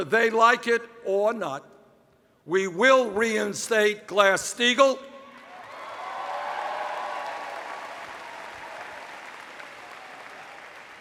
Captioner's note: cheers